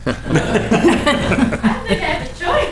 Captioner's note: laughter